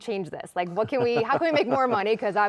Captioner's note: chuckling